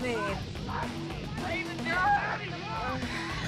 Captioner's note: shouting